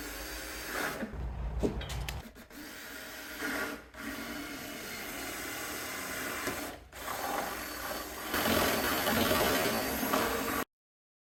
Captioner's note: drilling